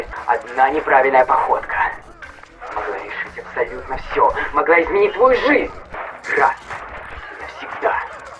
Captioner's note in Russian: шаги